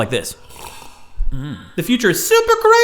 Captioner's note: slurps